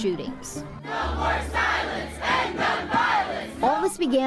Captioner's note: crowd